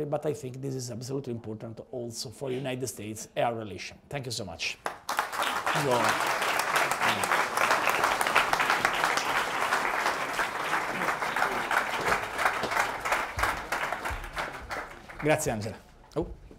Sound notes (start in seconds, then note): 7.7 applause